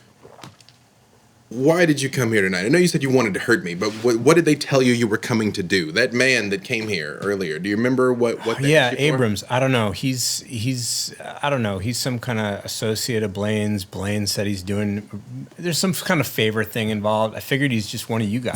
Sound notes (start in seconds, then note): 4.3 scoffs